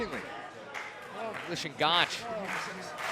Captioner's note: crowd chatter